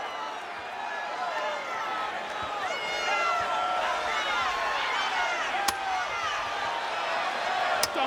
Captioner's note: applause